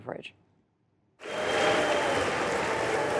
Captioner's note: cheering and applause